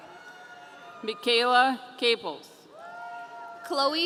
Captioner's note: audience cheering